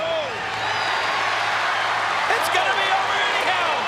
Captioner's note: audience cheers